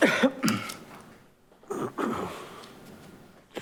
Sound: coughs

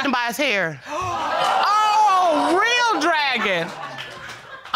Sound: audience exclaiming

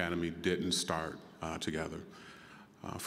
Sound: none

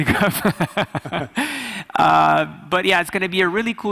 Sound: laughing

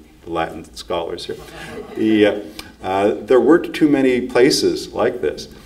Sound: audience laughs

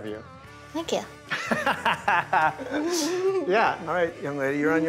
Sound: laughs

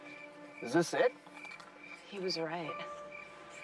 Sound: scoffs

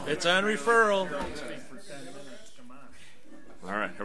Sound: overlapping chattering

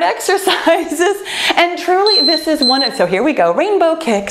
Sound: laughs joyfully; timer beeping

